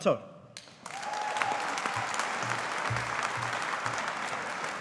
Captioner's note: audience applauding